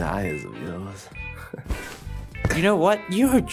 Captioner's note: pillow thumps